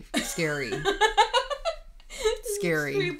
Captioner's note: laughing